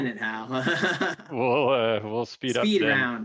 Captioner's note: laughs